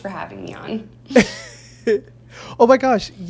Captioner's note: chuckles